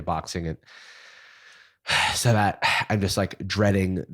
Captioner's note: sighs